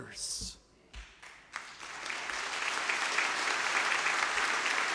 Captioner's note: audience applause